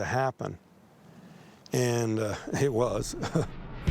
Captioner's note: chuckles